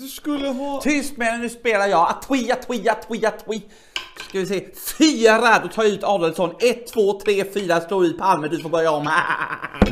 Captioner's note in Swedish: skrattar